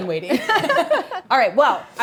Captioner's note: both laugh